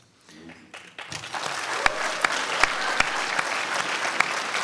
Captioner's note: crowd applauds